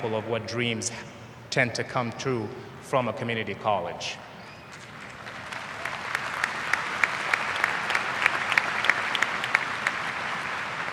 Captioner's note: applause